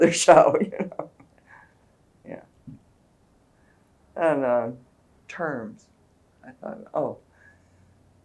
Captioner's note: laughs